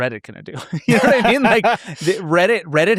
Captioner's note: laughs